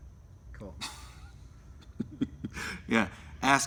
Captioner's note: laughs